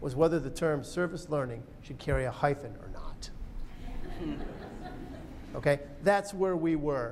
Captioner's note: laughter